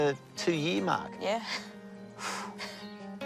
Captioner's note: laughs